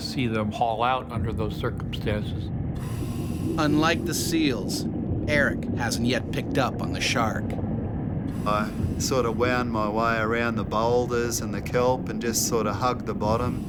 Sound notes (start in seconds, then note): 3.5 voiceover